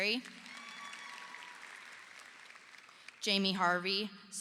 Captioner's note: audience applauding